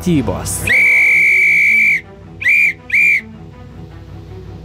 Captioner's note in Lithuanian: Švilpukas